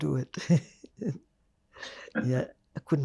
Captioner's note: laughing